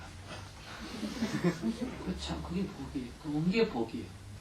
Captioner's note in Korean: 청중 웃음